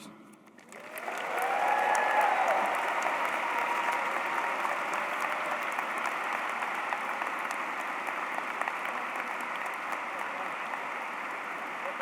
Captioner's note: applause